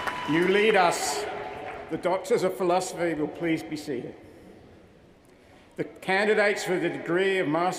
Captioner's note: cheers & applause